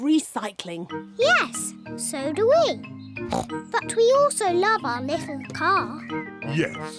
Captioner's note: snorts